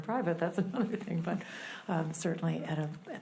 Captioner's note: laughs